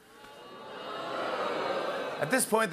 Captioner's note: audience boos